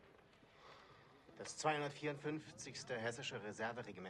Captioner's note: speaking in german; speaking in german